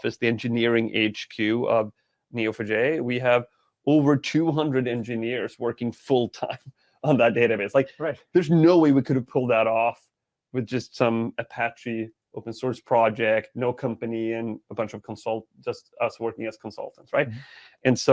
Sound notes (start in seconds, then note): 7.1 chuckling